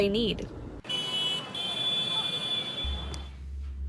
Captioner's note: horn honking